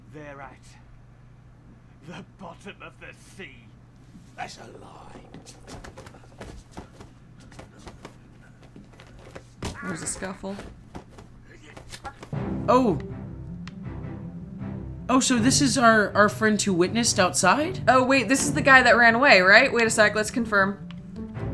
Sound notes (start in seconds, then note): 5.8 sounds of someone being patted down harshly; 9.6 there's a bludgeoning sound and someone chokes out in pain